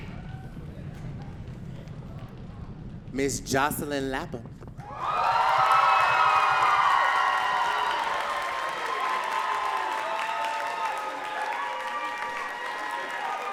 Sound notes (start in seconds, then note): 4.8 audience cheering and clapping